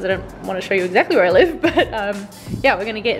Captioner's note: laughs